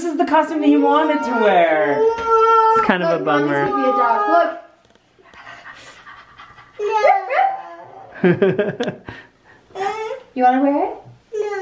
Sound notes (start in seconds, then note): 5.3 panting; 8.2 barking